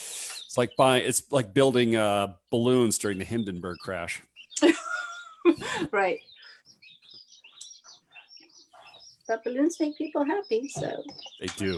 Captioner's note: laughs